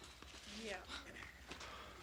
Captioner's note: none